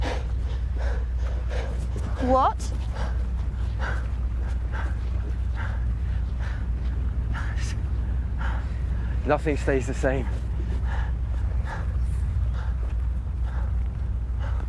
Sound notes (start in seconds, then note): 0.0 pants; 4.1 Percival breathes heavily; 10.2 pants